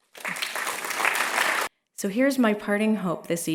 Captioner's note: applause